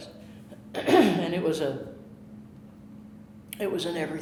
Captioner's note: clearing throat